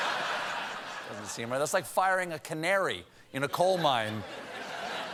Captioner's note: laughter